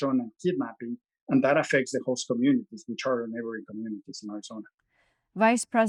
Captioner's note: faintly speaking